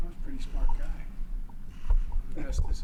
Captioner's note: laughs